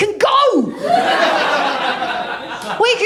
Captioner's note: laughter